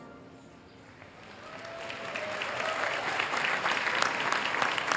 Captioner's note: applause